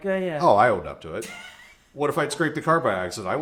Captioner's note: chuckles